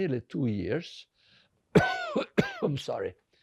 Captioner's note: coughing